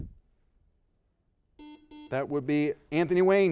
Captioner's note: buzzer beeping